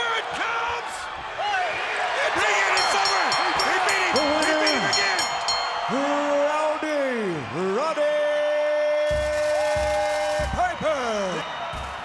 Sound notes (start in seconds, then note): 2.5 bell rings; 9.3 audience cheers